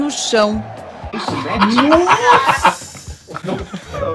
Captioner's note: risos